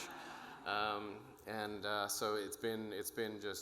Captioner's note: audience laughing